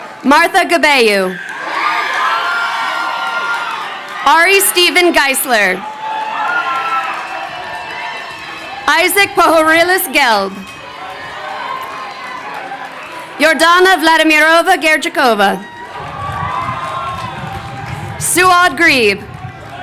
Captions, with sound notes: Martha Gebeyehu. (crowd cheering) Ari Steven Geisler. Isaac Pohoryles Gelb. Yordana Vladimirova Gerdzhikova. Suad Gharib.